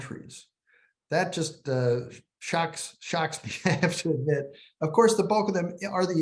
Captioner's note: laughter